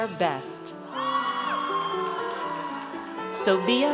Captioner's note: audience cheers